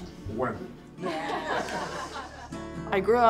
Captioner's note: all laugh